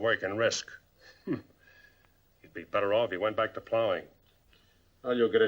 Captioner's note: scoffs